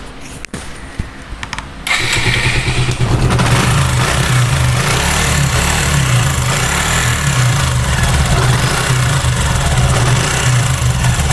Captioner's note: engine sound